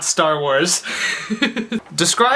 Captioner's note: laughs